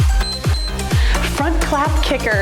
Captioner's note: timer beeps